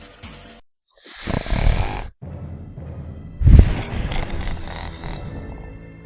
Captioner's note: snoring